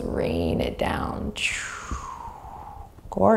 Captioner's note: exhaling deeply